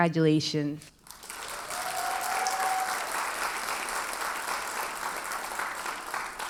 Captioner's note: audience cheers and applauds